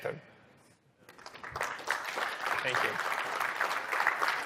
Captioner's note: applause